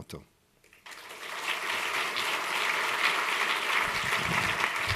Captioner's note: applause